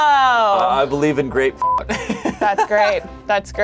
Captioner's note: beep; laughs